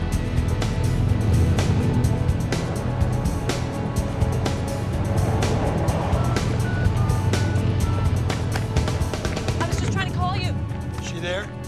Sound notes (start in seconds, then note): 6.1 dialing beeps